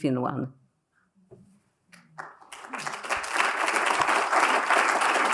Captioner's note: applause